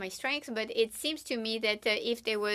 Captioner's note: speaking French